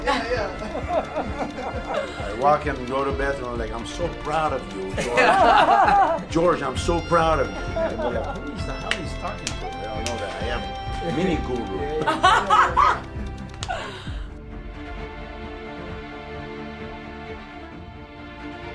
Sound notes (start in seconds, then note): 12.0 woman laughs; 15.3 upbeat dramatic music